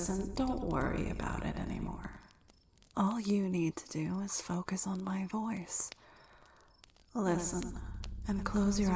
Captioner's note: echoing; echoing